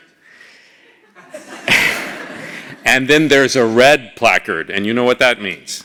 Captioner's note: laugh